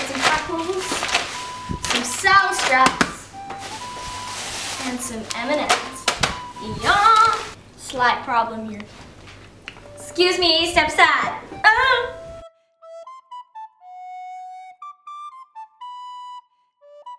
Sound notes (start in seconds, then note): 11.5 inarticulate sound of worry; 12.9 on a recorder